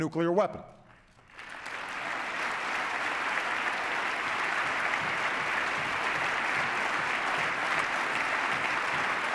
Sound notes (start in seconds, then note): 4.5 applause